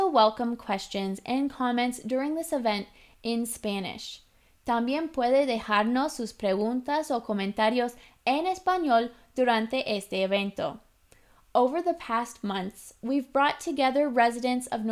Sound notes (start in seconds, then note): 4.4 Spanish